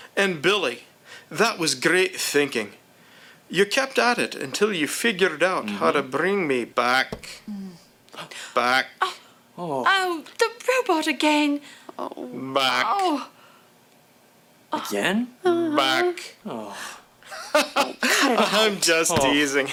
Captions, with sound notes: AND BILLY, THAT WAS GREAT THINKING. YOU KEPT AT IT UNTIL YOU FIGURED OUT HOW TO BRING ME-- (ROBOT VOICE) BACK, BACK. UH... OH. OH, THE ROBOT AGAIN. (ROBOT VOICE) BACK... AGAIN? (ROBOT VOICE) BACK. OH. HA-HA, I'M JUST TEASING.